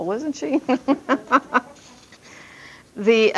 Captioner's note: laughs